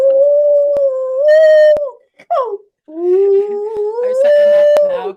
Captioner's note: dog howling